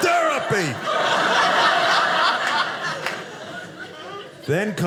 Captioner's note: audience laughing